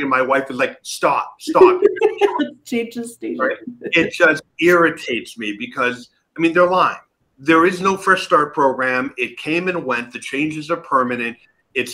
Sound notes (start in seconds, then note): 1.4 chuckling